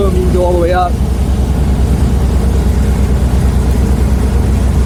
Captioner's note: generator rumbling